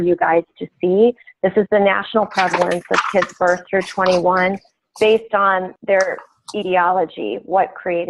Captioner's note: shuffling papers